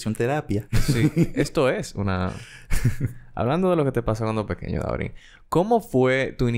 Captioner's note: laughs